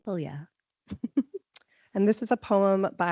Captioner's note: laughing